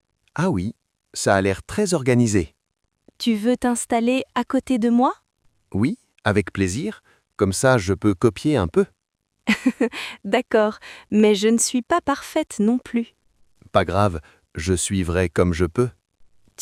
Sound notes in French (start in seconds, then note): 9.5 rire